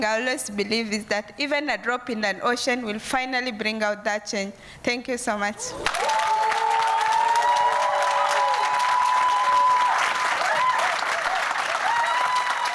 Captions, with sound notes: I always believe is that even a drop in an ocean will finally bring out that change thank you so much. (crowd applause)